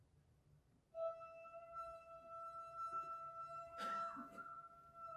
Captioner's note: person vocalising